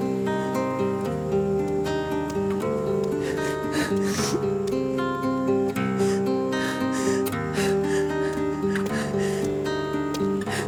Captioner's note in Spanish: Sollozos